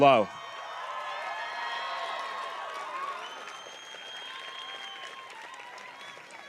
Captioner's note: audience cheers and applauds